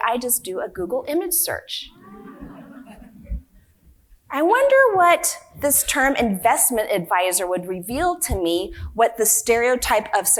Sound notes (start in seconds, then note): 2.0 audience laughing